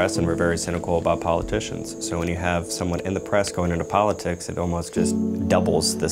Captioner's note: none